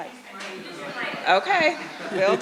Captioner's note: crowd chattering; voiceover; audience laughing